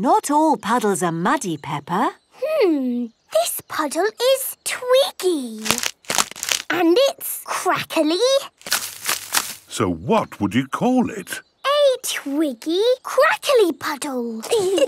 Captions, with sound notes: - Not all puddles are muddy, Peppa. - Hmm. This puddle is twiggy. (crackling) And it's crackly... - So what would you call it? - A twiggy, crackly puddle!